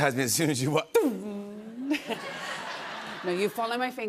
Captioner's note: laughs